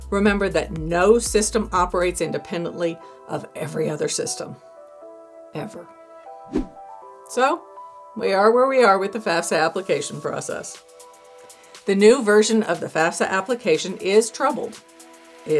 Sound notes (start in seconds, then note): 6.4 air whooshing